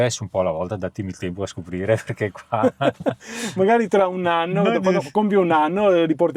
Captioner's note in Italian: risate